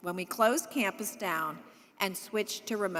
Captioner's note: none